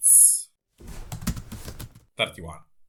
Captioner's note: typing noises